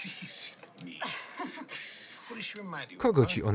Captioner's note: laughs